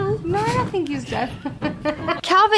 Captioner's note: laughs